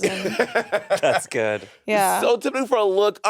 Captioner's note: Monét laughing